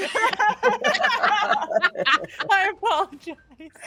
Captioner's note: people laughing